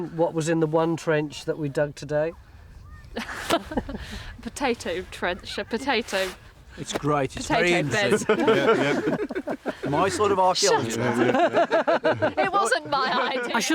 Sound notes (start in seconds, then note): 3.1 chuckles; 8.2 all chuckle; 11.6 all laugh